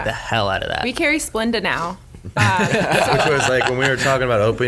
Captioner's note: laughs